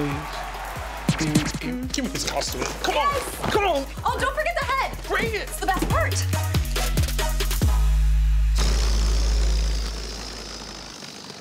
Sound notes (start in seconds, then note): 0.0 crowd cheering; 1.0 record scratching; 7.0 upbeat music; 8.6 air whooshing